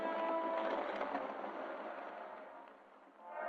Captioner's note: engines shutting off